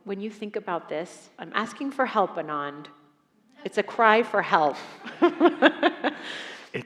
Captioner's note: laughs